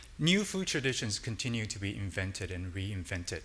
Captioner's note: none